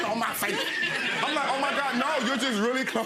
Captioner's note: audience laughing